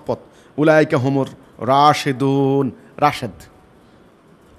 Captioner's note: Arabic